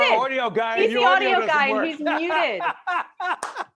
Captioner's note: laughing